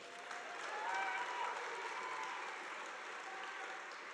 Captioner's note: audience applauding